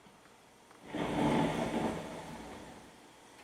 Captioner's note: thunder